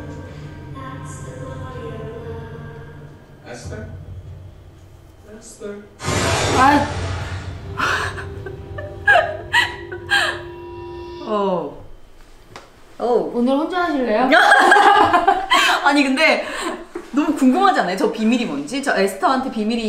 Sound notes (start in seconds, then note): 8.1 giggle